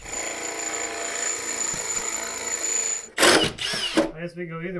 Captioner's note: drill whirring